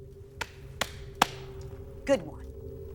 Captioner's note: Marie clapping